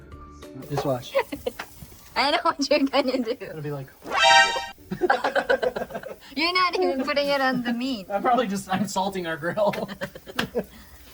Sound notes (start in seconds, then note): 4.8 laughter; 9.5 chuckles